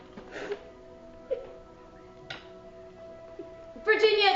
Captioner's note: Virginia sobbing